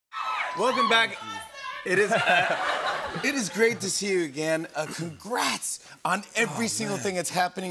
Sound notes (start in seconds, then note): 1.9 laughter